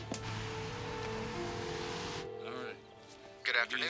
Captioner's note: telephone ringing